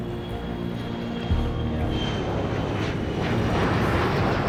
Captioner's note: plane engine roaring